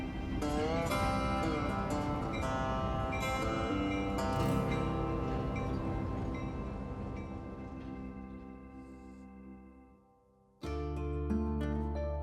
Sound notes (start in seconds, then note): 0.1 train horn blows; 4.8 train bell ringing